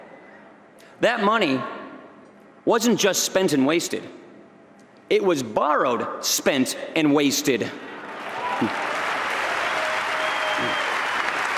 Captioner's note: applause